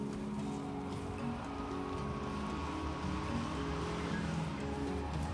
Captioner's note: car engines revving; gentle upbeat music